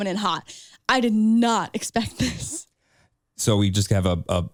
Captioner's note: chuckles